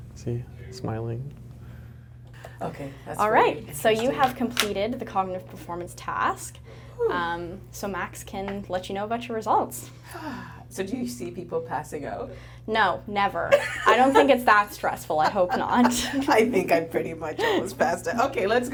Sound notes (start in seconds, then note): 6.5 exhaling; 10.0 sighing